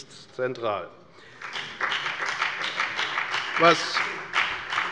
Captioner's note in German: Beifall bei der FDP